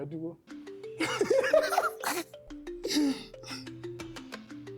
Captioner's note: laughs